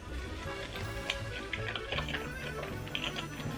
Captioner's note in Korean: 고기 우적우적